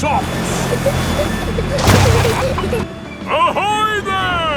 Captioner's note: peppa and george giggling